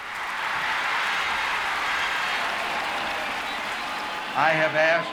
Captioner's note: applause